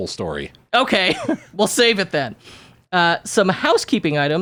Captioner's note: giggles